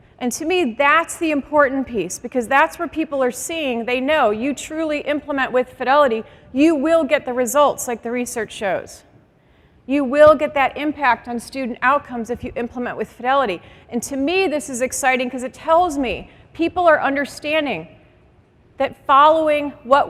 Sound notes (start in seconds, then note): none